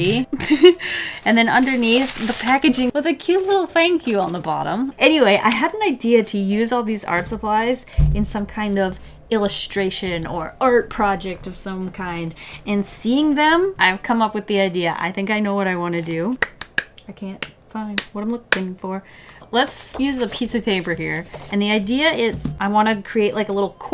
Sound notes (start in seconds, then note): 16.4 clap; 16.4 clap, clap, clap